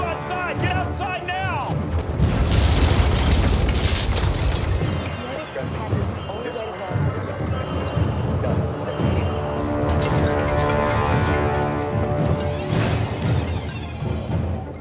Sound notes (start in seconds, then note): 5.3 intense chattering; 9.9 cell phone rings